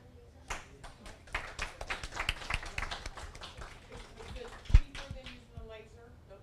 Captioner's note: audience applause